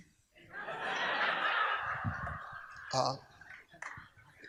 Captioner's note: audience laughs